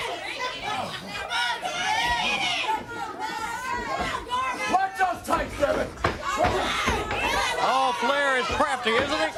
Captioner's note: crowd chatter; crowd cheering